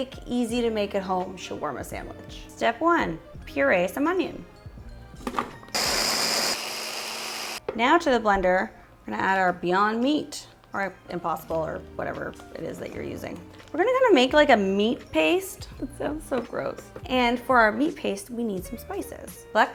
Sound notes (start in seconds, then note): 5.7 blender whirs